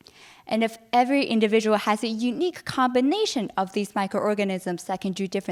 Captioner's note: none